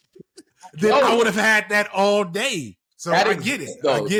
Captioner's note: laughter